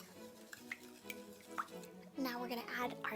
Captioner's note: liquid sloshing